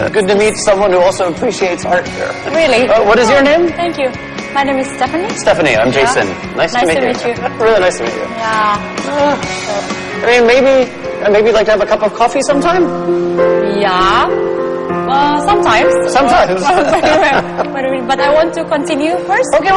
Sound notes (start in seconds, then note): 9.0 sighing; 16.5 laughter